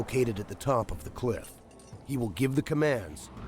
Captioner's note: voiceover